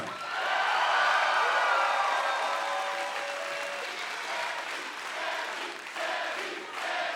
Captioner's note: cheers and applause; fans chanting